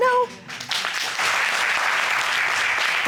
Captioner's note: applauding